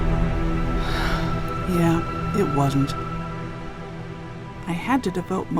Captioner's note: sigh